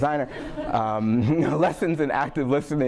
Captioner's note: audience laughing